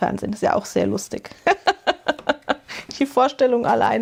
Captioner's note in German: gelächter